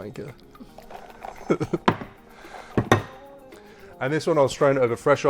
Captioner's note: laughing